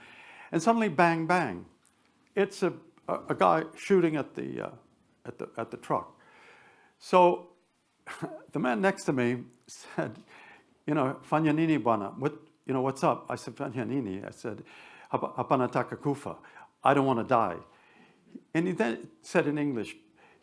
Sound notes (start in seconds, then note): 10.1 speaks Swahili; 13.8 speaks Swahili